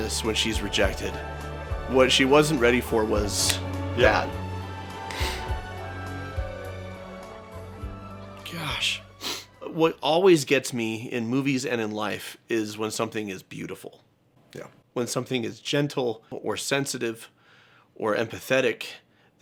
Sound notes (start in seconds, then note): 9.1 sniffs